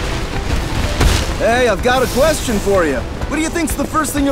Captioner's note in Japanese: バン